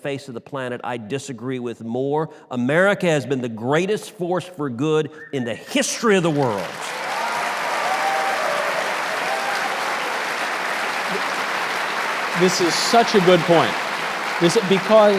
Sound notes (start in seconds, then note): 7.7 audience applause; 7.7 audience cheers